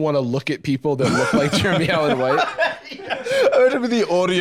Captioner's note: laughing